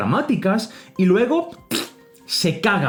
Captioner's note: fart noise